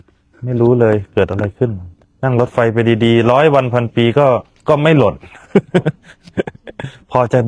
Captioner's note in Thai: เสียงหัวเราะ